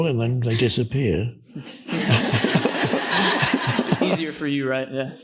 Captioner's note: audience laughs